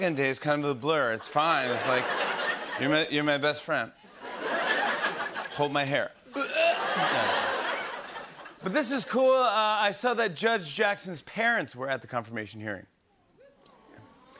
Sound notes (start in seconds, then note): 6.3 imitates vomiting